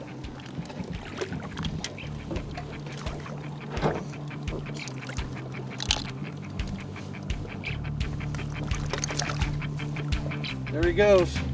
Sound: fish splashing

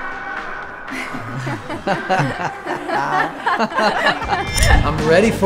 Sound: group laughs

